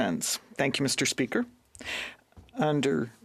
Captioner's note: speaking French